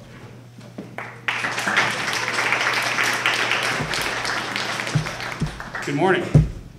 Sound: applause

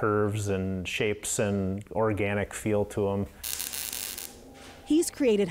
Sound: sparks crackling

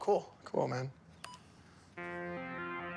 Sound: stereo beeps

